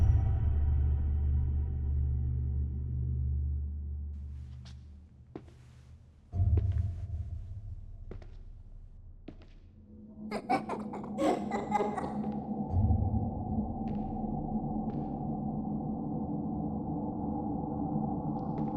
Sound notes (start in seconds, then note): 10.1 ominous music; 10.3 kids giggling